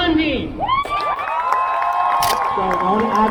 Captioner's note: crowd cheers